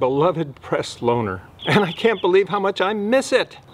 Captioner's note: birds chirping